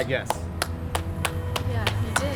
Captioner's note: clapping